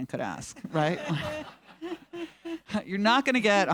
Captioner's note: all laughing